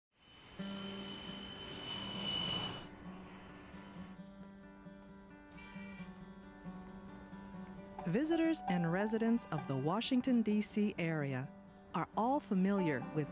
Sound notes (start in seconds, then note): 0.3 plane engine whining; 0.6 mellow strings music